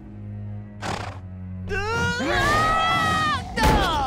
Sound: screaming; groaning

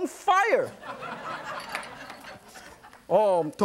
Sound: audience laughs

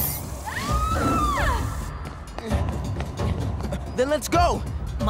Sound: screams

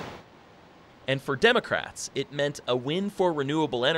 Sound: voiceover

